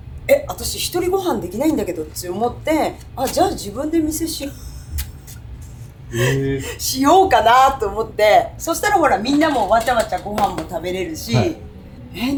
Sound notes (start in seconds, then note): 6.1 laughs